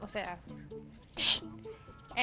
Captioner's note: fx sound